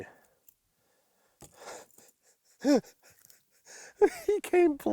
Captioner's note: laughs